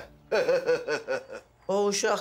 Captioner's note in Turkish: Gülüyor